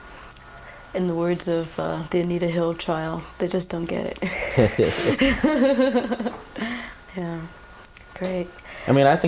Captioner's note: laughter